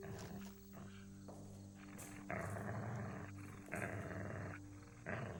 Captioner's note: Atticus continues growling